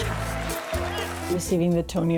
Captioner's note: Aclamaciones y aplausos